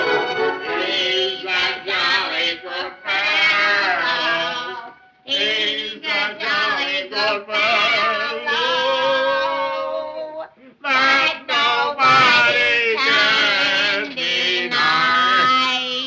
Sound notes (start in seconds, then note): 1.6 drunkenly